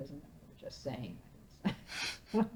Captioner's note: laughing